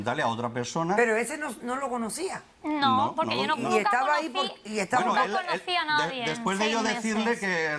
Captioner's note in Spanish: Hablan al unísono